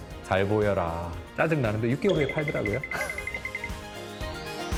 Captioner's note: laugh